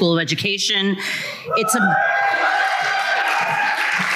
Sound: cheers

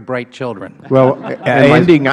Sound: laughter

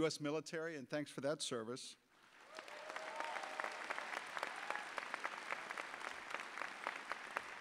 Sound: audience applause

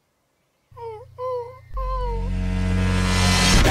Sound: whimpers

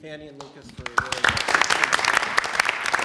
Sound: applause

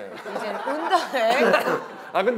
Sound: cough cough

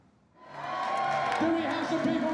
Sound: laughs; crowd cheering

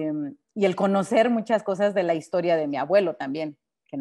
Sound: speaking Spanish

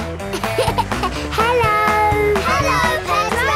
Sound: laughing

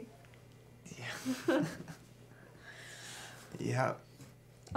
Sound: laughs

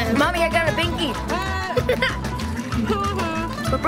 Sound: laughs

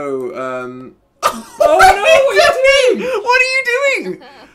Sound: laughing

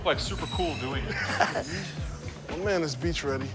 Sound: laughs

